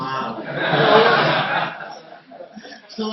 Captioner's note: laughing